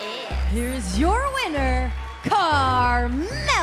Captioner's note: bell ringing